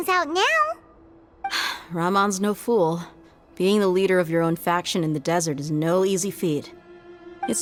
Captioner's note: sigh